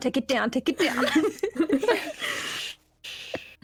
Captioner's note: unruly giggles